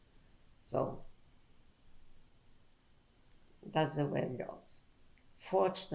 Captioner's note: pauses for 3 seconds